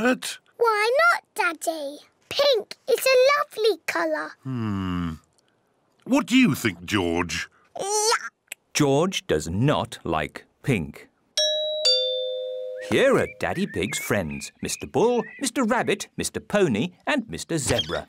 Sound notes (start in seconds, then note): 11.4 doorbell rings